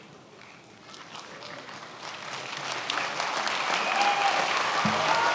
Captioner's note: many applauding